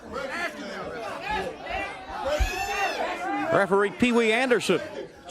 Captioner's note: crowd chatter